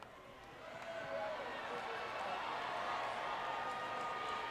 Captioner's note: crowd cheering